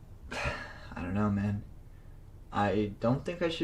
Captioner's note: sighs